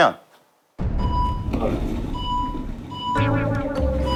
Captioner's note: emergency siren